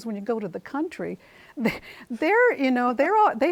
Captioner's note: chuckles